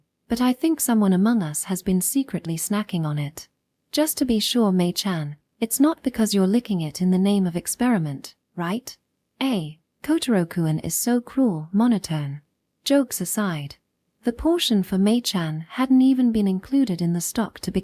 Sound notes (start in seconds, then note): 12.0 monotone